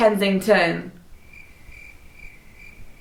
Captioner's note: crickets sfx